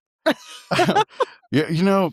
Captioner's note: laughing